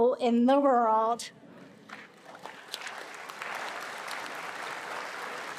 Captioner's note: attendees applauding